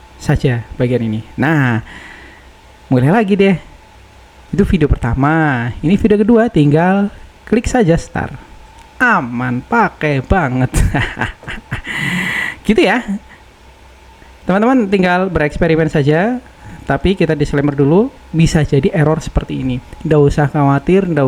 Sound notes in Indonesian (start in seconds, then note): 10.6 tertawa; 11.7 terkesiap